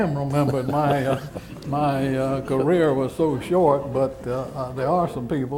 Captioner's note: laughter